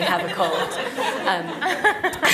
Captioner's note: laughing